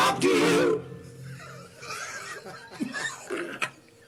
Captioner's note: laughs